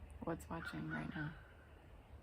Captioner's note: bird sounds